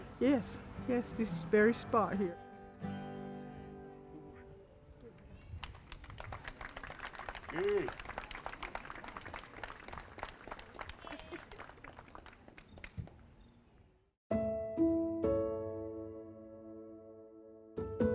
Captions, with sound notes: And I said, "Yes, yes, this very spot here." [crowd applauds] [reverent music]